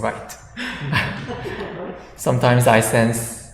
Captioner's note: audience laughs